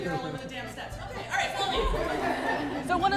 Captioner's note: laughter